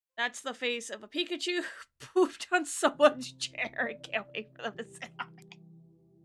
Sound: muffled laughing

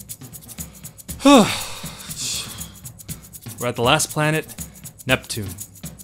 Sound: sigh

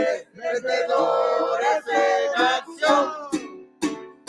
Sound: none

